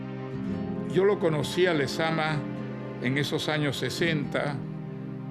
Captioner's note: speaking Spanish